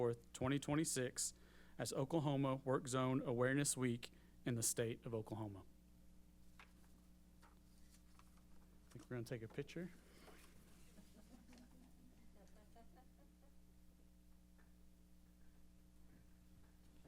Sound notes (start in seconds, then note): 10.8 laughs